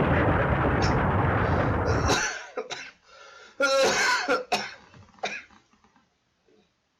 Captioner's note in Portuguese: tosse russa intensa